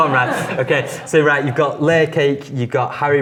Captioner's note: laughs